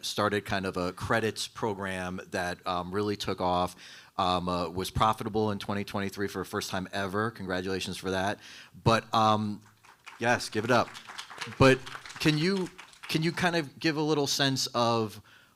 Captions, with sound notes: started kind of a credits program that really took off, was profitable in 2023 for a first time ever. Congratulations for that. But yes, give it up. (audience applauding) But can you kind of give a little sense of